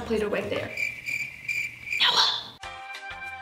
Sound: crickets chirping

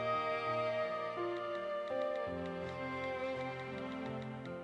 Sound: phone clicking

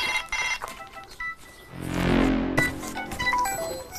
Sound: the fatal phone is ringing

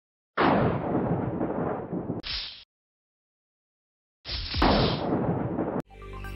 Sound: thunder crashing with static; intro music

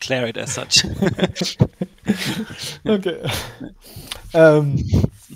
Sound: laugh

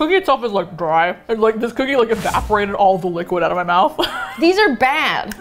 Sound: laughs

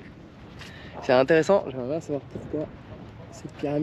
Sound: speaking in foreign language

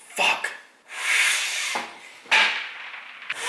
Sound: blows

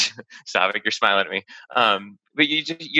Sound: laughs

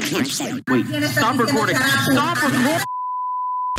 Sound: angry in Spanish; long beep

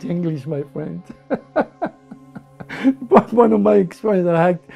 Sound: laughs

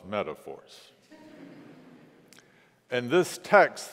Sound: congregation laughs

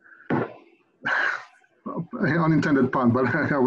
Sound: exhales heavily; giggles

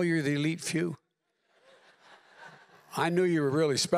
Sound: laughter

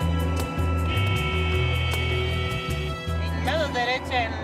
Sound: dramatic music; car horns honking; speaking in foreign language

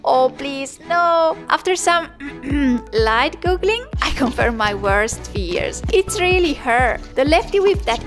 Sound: ahem

